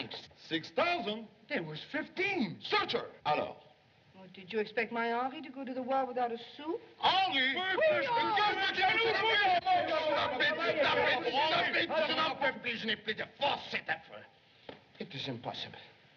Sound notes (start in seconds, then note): 7.5 all Shouting In French; 11.8 speaking French